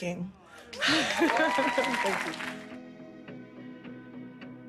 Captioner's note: audience cheers; laughs; gentle music